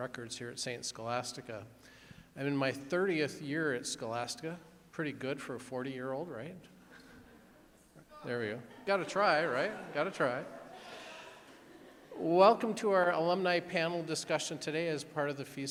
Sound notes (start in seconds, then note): 8.6 audience chuckling; 8.6 audience laughing